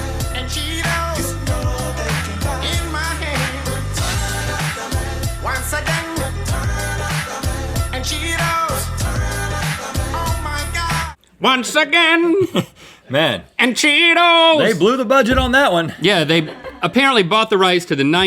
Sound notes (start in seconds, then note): 12.3 chuckles